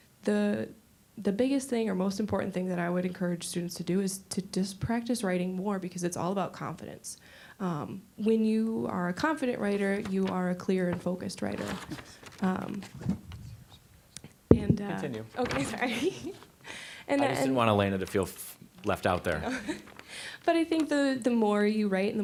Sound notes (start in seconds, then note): 11.9 papers being shuffled; 15.5 laughing